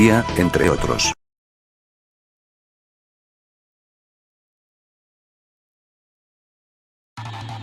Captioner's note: akward silence